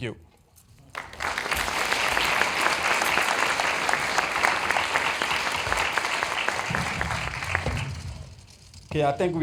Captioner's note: applause